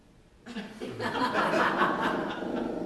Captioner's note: laughter